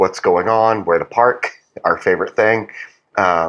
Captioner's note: laugh